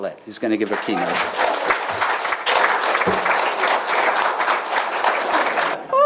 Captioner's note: applause